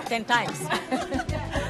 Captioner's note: laughs